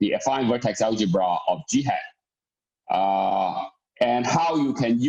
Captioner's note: murmur